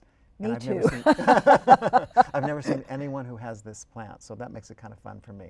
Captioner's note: laughter